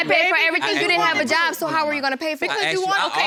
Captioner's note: all arguing